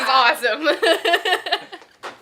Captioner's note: laughter